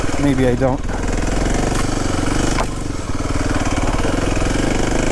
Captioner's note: bike wheels whirring